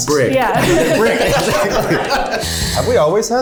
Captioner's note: everyone laughs